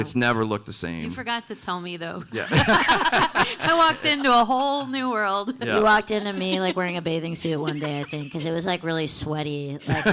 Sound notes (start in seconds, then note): 2.3 panelists laughing